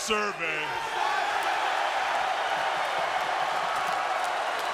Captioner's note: crowd cheers